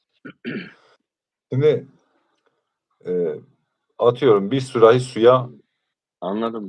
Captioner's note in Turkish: boğazını temizler